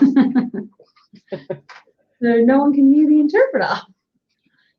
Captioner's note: laughs